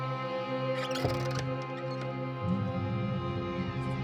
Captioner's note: door squeaks